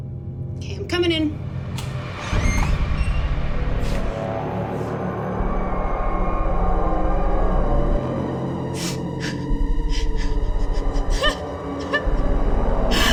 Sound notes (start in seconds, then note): 1.5 eerie music; 9.0 Ally crying